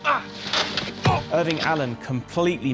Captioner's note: grunting